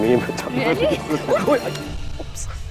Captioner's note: Udayan laughs